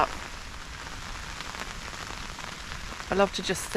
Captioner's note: rain